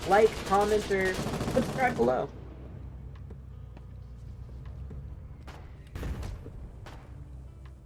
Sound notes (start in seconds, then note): 2.4 artillery shell falls from sky demolishing a building